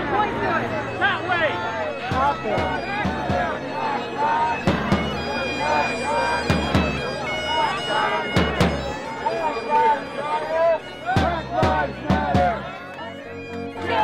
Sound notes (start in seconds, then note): 1.8 bagpipes playing; 1.8 crowd chanting; 11.3 crowd